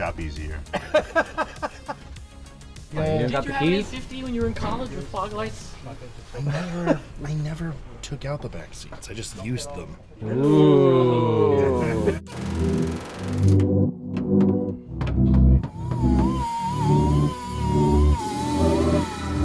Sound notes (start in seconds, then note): 10.2 multiple Voices; 14.2 drill whirring; 14.2 upbeat music